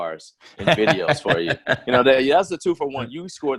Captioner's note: laughs loudly